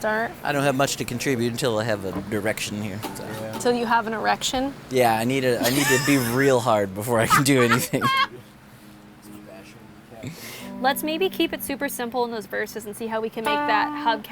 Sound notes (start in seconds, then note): 7.2 laughs